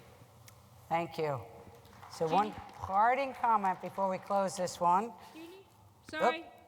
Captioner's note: applause